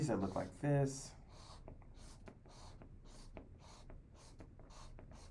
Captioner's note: marker scratching